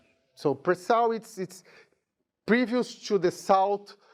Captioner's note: speaking in a foreign language